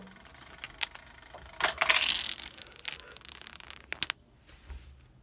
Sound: dominoes falling

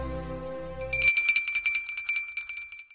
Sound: bell ringing

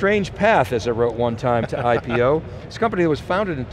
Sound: laughs

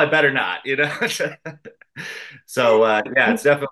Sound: laughs

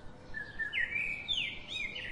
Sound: birds Chirping

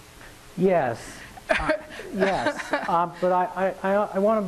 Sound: laughing

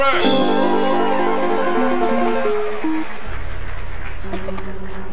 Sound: audience cheering; un-named laughing

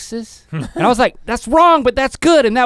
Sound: laughs

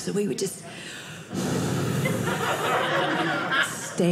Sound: audience laughing

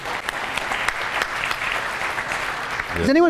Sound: applause

